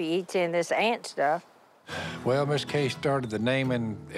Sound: Phil sighs

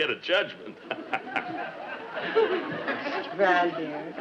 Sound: Brad laughs

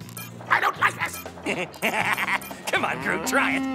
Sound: beeping; squeaking; laughs; cow mooing

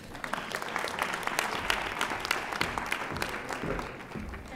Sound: audience applauding

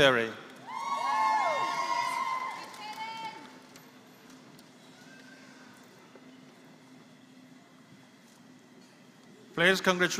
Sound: applause

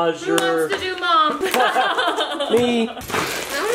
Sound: laughs

